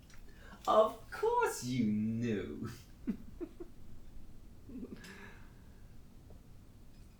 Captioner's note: Captain Brookes laughs